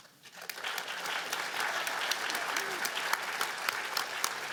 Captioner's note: applause